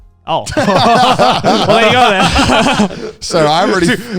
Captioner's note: group laughs